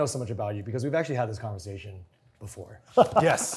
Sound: chuckles

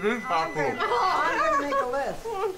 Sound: Domonique laughs

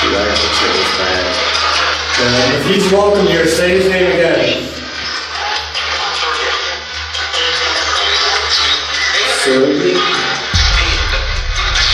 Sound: Static

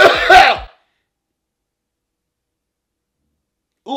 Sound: coughs

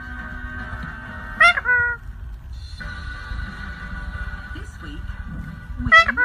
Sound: bird making high pitched noises

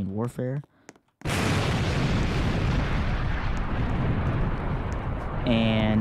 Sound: loud explosion sound

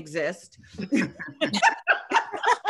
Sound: laughter

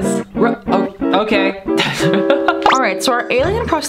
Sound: laugh

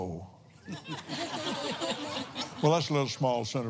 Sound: laughs

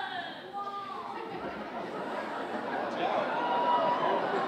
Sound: audience exclaiming

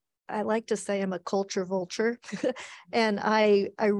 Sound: chuckles

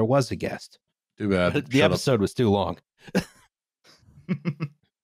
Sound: very small laughs; laughs

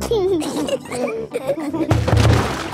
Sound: giggling

